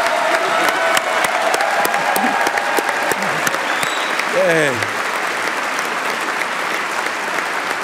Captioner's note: applause